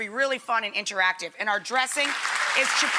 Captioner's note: audience applauds